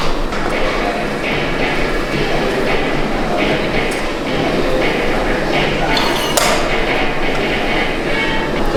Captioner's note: metal Clanking